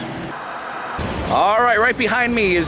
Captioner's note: white noise scratching